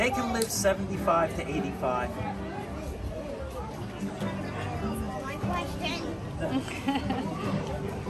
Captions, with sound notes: - They can live 75 to 85. - You stole my question. (woman laughing)